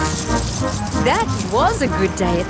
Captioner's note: coins jingling